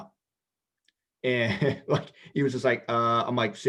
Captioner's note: laughs